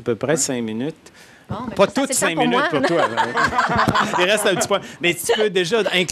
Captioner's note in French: Rires